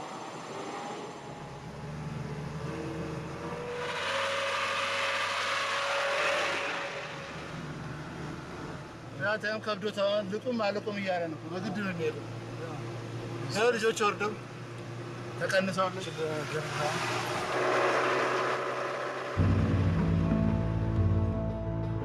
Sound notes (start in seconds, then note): 9.1 speaking in foreign; 17.5 truck throttling; 19.3 dramatic music